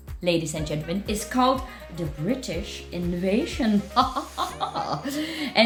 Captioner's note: chuckles